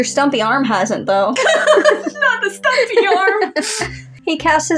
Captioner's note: laugh